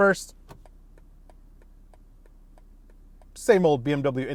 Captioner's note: indicator clicking